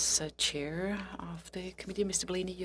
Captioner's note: speaking French